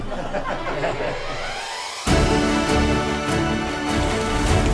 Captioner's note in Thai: เสียงหัวเราะ